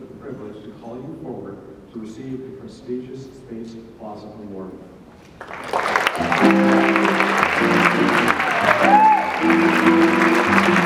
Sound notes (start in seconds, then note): 5.3 audience clapping; 8.2 jazz music